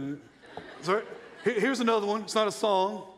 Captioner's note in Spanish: risas de la audiencia